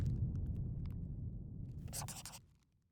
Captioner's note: scribbling